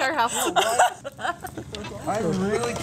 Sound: laughter

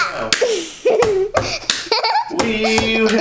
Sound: babbling; child laughing

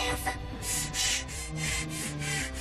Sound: panting

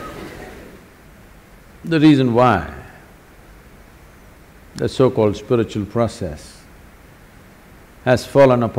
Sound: laughs

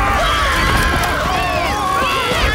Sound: screaming

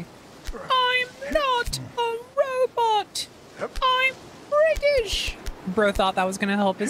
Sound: british Voice

